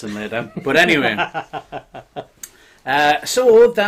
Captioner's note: laughing